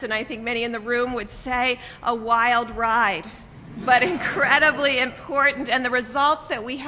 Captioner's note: laughter